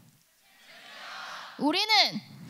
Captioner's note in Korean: 관중들